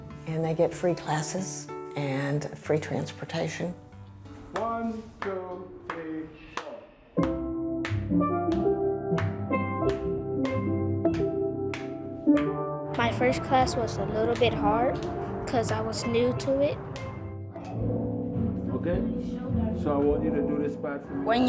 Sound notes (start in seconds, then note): 7.8 clapping